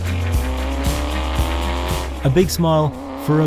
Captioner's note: engine roaring